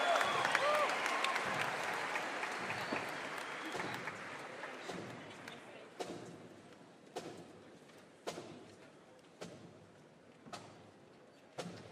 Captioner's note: applause